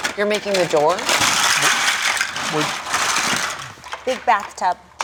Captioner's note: Legos clacking